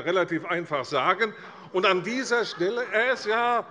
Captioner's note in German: Lachen bei der SPD